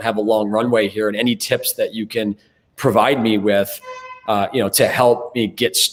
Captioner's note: car honks